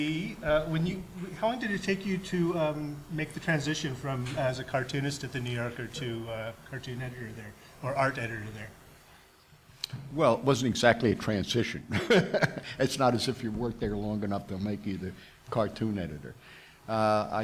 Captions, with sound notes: - Lee, how long did it take you to make the transition from, as a cartoonist of the New Yorker to a cartoon editor there, or art editor there? - Well, it wasn't exactly a transition (laughing). It's not as if you worked there long enough, they'll make you the cartoon editor.